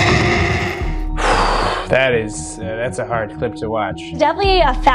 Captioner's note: animal roaring; sighs